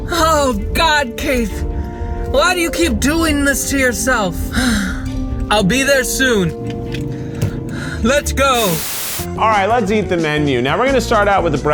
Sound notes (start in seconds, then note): 4.4 sighs; 8.5 static crackling